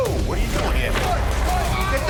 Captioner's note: chairs breaking; Dwight grunting